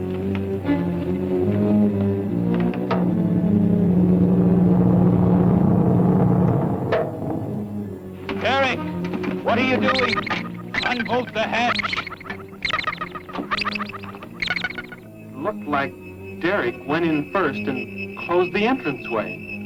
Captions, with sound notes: [ CAPSULE SLIDES ] Derek, what are you doing? Unhook the hatch! [ MACHINES BEEPING ] Looks like Derek went in first, and closed the entranceway.